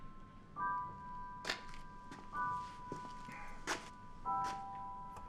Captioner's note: footsteps tapping